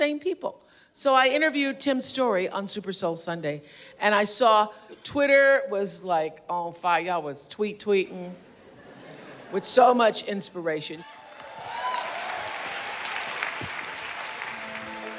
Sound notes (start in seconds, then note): 8.5 laughter; 11.1 cheers and applause